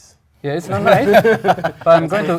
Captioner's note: laugh